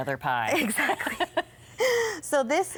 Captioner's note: both laughing